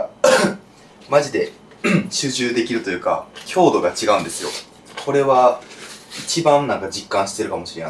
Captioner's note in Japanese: 咳払い